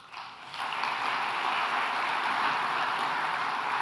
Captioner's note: audience applauds